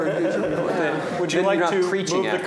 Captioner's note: laughter